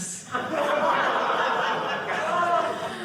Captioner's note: audience laughing